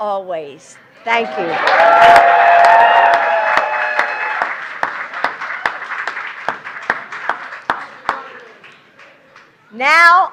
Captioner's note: applause